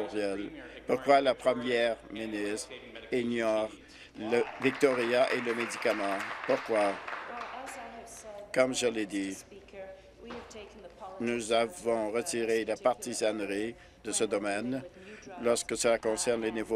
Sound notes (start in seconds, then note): 8.2 applause